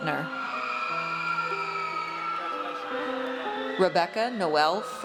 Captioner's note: audience cheers